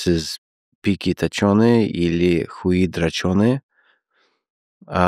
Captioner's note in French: Parle Russe